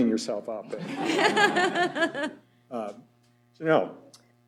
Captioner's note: laughter